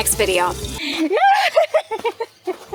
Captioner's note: laughter